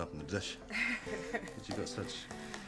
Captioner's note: Kate chuckles